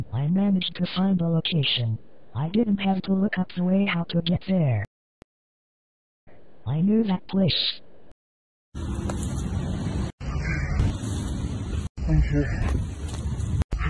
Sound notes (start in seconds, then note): 8.8 cars passing